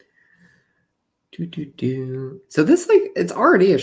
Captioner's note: humming